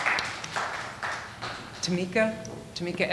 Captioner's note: audience applauding